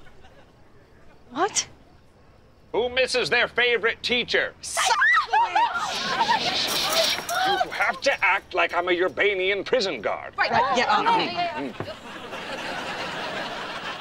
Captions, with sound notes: What? Who misses their favorite teacher? Sikowitz. [shushing] You have to act like I'm your Bainian prison guard. Right. Yeah, yeah, yeah.